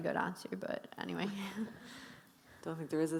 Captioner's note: chuckles